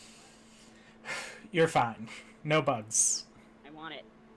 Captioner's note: deep sigh